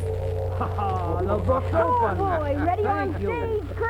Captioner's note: gong chimes